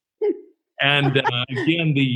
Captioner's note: laughs